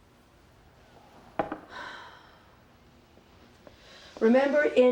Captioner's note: claire sighs